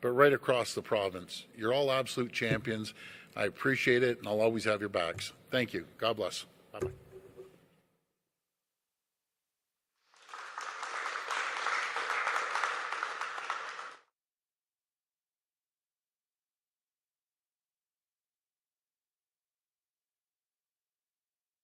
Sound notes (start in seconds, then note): 13.1 applause